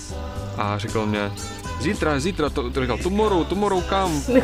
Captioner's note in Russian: плохим английским